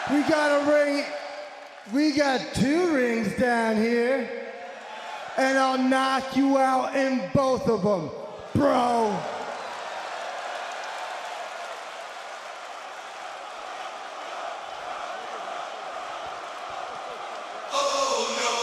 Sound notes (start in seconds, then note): 10.0 crowd cheering